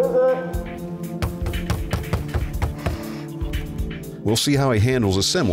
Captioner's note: knocking